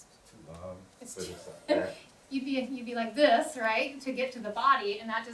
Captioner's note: laughs